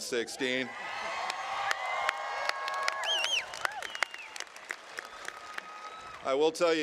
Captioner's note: cheering